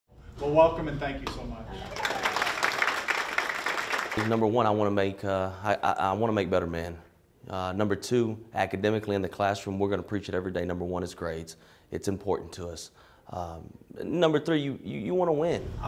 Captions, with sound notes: Welcome and thank you so much. (applause) Number one I want to make better men. Number two, academically in the classroom, we're going to preach it every day, number one is grades. It's important to us. Number three, you want to win.